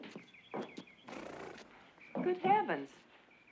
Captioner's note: nickers